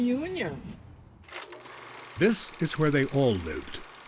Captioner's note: reel rattling